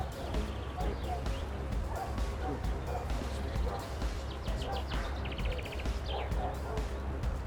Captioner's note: birds chirping; upbeat music